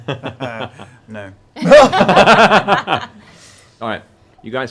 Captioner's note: laughter